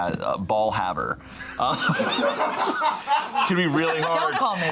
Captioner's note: all laughing